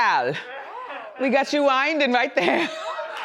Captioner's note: laughs